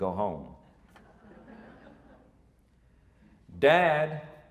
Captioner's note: audience laughing